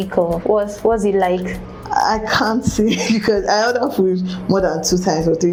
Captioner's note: laughs